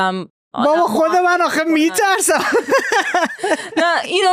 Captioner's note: laughs